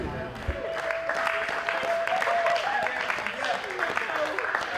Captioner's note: cheerleaders clapping